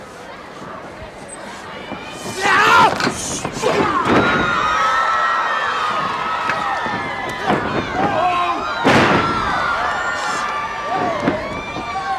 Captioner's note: crowd cheering